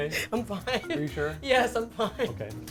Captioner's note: laughs